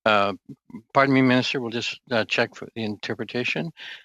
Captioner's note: speaking French